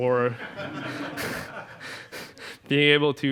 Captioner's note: crowd laughter